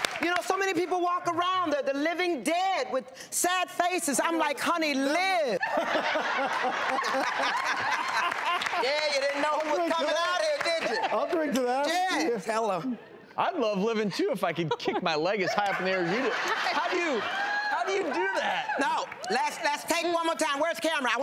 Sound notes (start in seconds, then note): 5.7 laughing; 15.4 laughing